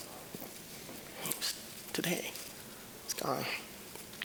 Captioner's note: voice wavering